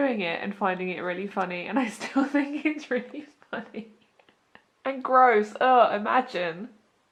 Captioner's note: laughs